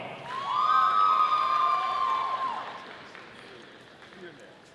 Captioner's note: audience applauding